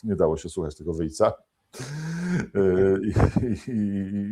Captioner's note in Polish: śmiech